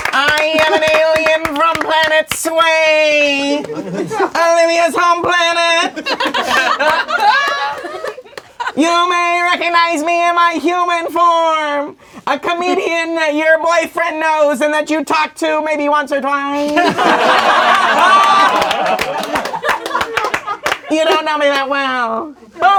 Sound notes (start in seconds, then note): 0.0 crowd applauding; 5.7 crowd laughing; 16.6 crowd laughing